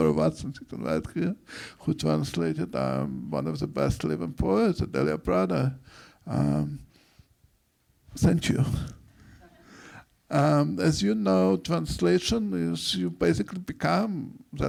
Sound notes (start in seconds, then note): 9.4 audience laughs